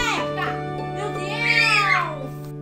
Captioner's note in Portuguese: grito